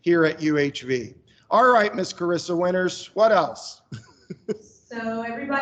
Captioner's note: chuckles